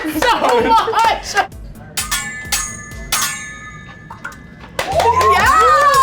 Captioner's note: metal clanking; clapping; cheering